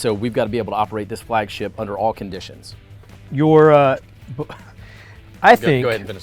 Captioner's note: chuckles